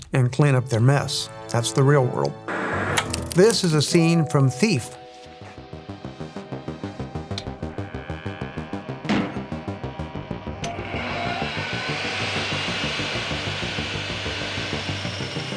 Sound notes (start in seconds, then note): 2.4 static crackling; 5.2 suspenseful electronic music; 10.6 drill whirring